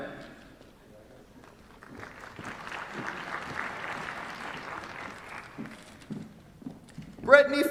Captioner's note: applause